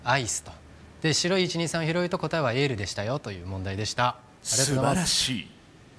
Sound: yell

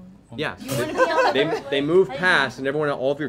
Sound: laughter

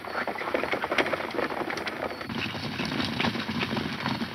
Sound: horses galloping

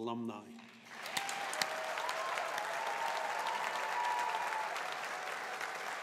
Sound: audience applauding

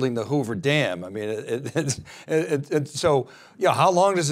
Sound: chuckles

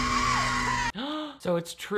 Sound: Melissa screaming; gasping

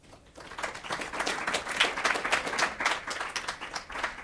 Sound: audience applauds

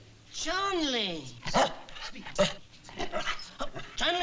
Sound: barking

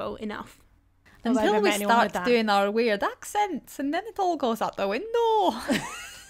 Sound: in a bad Scottish accent

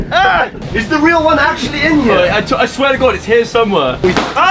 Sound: balloon pops

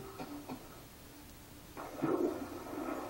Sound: water splash sound

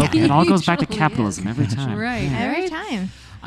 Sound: laughing

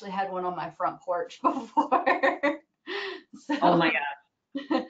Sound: laughing

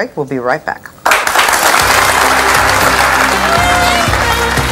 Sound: audience claps

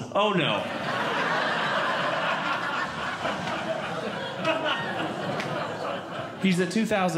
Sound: audience Laughing

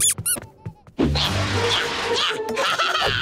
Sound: squeaking; grunting; laughing

